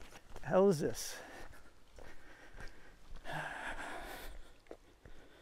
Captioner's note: heavy sigh